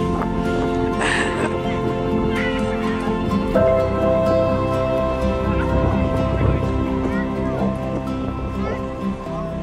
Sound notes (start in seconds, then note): 0.0 laughter; 0.0 more laughter; 1.0 excited chatter